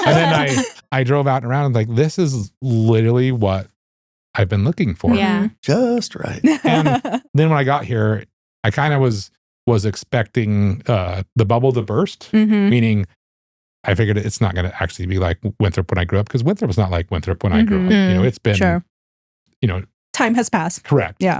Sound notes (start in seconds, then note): 7.3 laughing